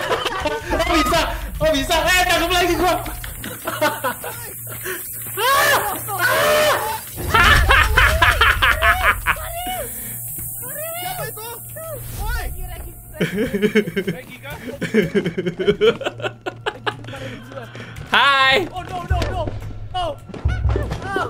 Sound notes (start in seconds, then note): 4.2 laugh; 7.2 evil laugh; 8.9 scared laugh; 14.7 evil laugh